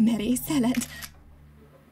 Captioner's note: photo sound effect